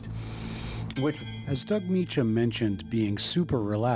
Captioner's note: bell ringing